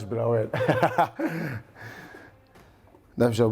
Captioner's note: laughs